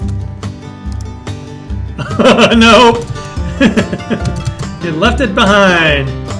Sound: laughing

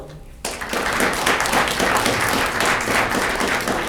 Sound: audience clapping

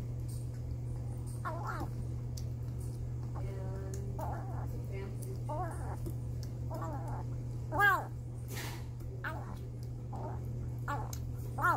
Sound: creaky baby meows stuffed with food

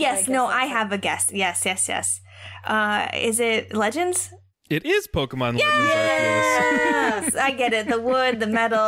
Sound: all cheer

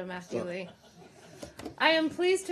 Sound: laughter

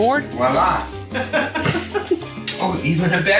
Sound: laughs

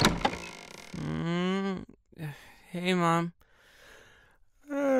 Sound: knocks on door

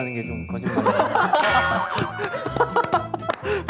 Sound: laughing

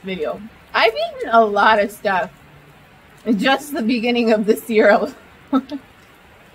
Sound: laughs

